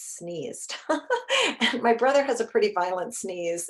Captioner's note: chuckles